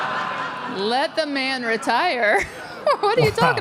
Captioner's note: audience laughs; laughs